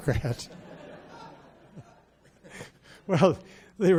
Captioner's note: audience laughs